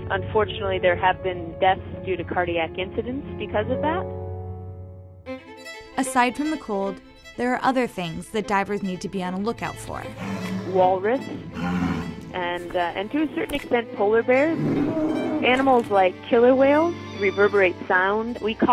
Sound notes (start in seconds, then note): 11.4 walrus roar; 14.4 bear roar